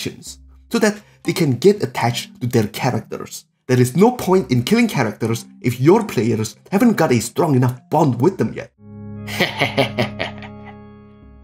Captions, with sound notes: So, that they can get attached to their characters. There is no point in killing characters if your players haven't got a strong enough bond with them yet. (evil laughter)